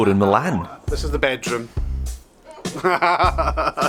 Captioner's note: laughs